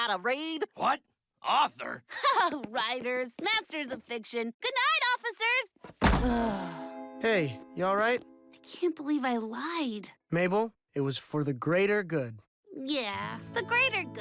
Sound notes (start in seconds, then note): 3.5 chuckling